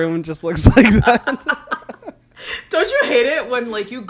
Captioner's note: both laugh